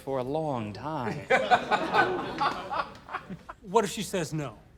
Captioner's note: laughter